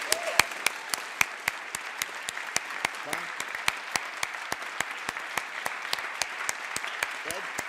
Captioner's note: cheering